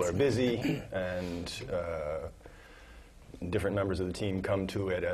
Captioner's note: laugh